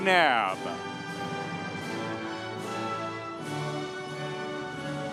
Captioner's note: audience applauding